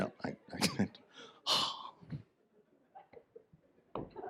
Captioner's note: sighs